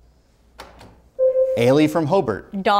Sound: buzzer sounds

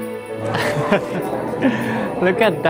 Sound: chuckles

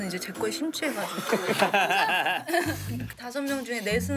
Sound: pfffft

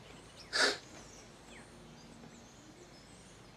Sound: woman sobbing

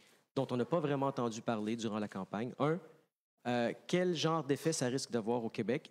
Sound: speaking FRENCH

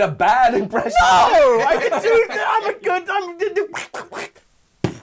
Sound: duck noises

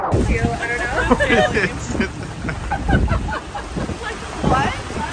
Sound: all laughing

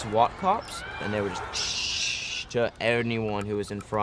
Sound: spraying sounds

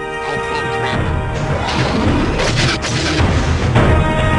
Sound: Hailfire missile launches

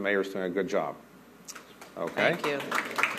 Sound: applause

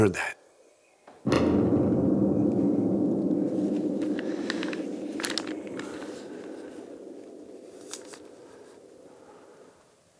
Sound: bombs continue to drop

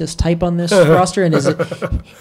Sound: Mike chuckles

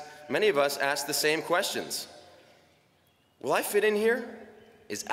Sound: none

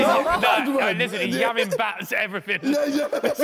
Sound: men laughing

